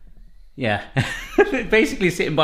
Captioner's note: laughing